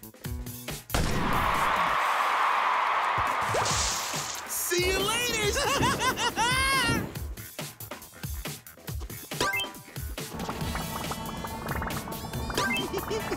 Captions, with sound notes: See you later! [laughing] [giggling]